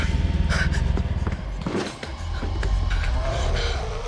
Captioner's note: Candace Re-Enactor gasping; thumping; growling